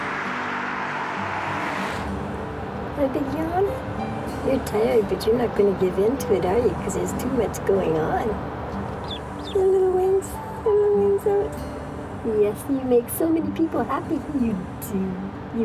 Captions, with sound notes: (car driving past) I think you are, you're tired, but you're not gonna give into it are you? Cause there's too much going on. (duckling quacking) Your little wings, your little wings out. Yes, you make so many people happy, you do.